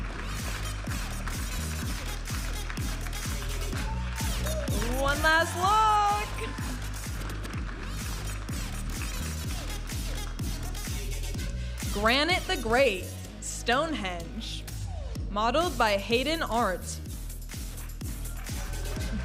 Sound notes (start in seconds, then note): 0.2 vibrant music; 7.1 audience applauding and cheering; 8.9 vibrant music; 17.6 audience applauding and cheering